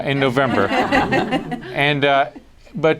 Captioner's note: laughter